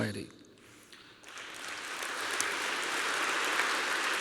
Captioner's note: applause